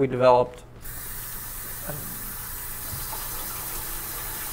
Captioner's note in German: Wasser läuft